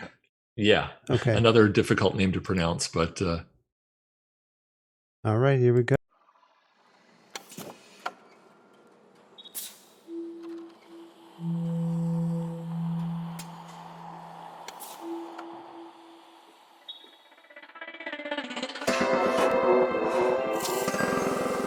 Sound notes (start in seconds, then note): 9.5 air hissing; 9.6 parts clanking; 17.4 house music